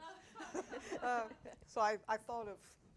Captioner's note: audience laughing